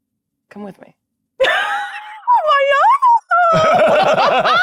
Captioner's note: giggling